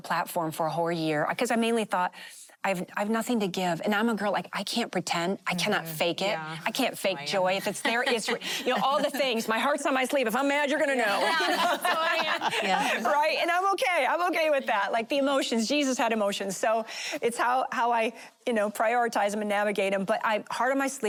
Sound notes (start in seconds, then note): 11.1 laughing